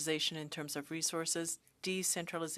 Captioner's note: speaking French